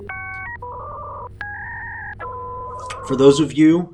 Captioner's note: digital beeping